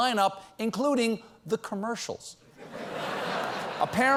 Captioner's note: laughter